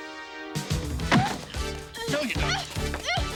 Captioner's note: body thudding; girls squealing